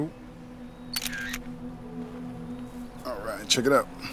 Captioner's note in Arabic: تنقر الكاميرا